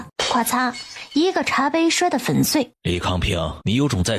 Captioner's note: crash